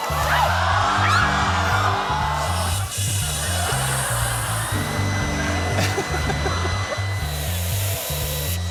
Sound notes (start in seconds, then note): 0.0 audience yells; 2.6 laughter; 6.0 laughs